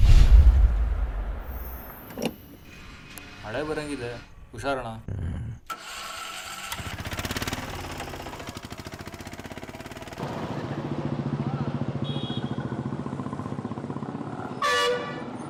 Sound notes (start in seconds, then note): 3.4 man speaking foreign language; 6.4 motor rumbling; 12.2 car horns blaring